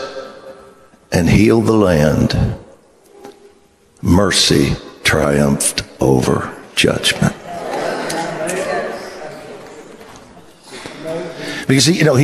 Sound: congregation reacts

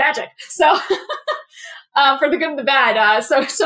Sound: laugh

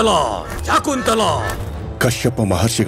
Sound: voice echoes

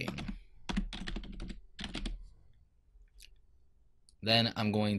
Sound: keyboard keys clicking

